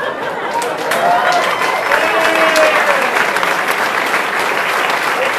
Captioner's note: audience applauding